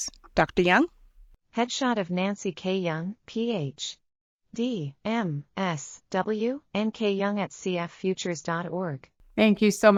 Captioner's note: audio Description being read